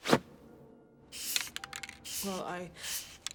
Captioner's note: spray whooshing